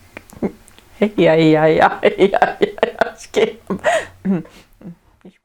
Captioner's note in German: lacht